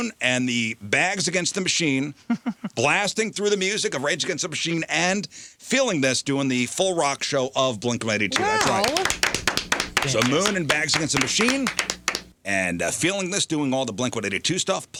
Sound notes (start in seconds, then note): 8.3 clapping